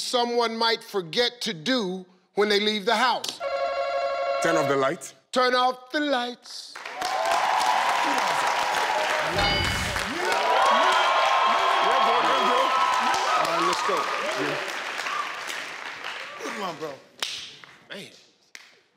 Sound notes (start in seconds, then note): 3.4 buzzer rings; 7.5 audience cheers; 10.6 audience cheers